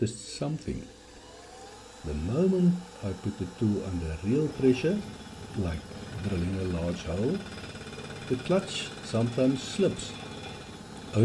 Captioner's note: like drilling a large hole